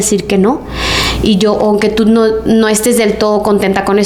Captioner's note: sighs